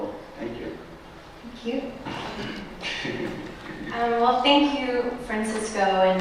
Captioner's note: laughter